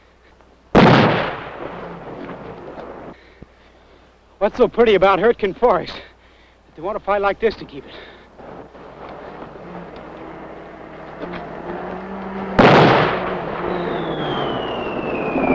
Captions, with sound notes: [explosion] - What's so pretty about Hürtgen Forest? They want to fight like this to keep it. [vehicle approaching] [explosion] [approaching whistling sound]